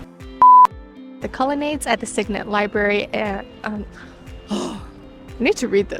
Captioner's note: huffs